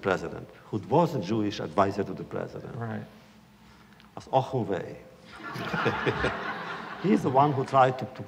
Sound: laughter

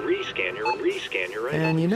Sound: scanner beep

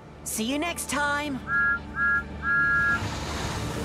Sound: thomas whistles

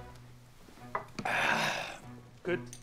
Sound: groans

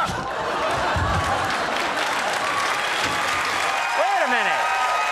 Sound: audience applauds and cheers

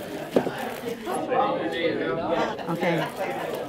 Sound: crowd chatter

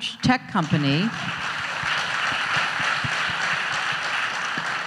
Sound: audience applauds

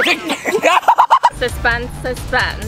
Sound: laughing

